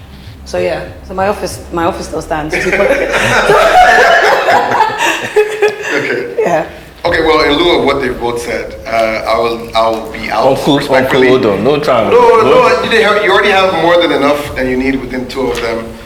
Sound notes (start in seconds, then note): 2.3 judges Laughing